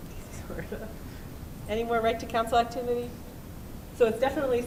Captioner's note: chuckles